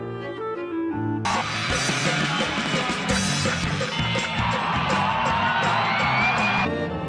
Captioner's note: cheering